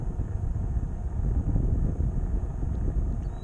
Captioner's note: wind blowing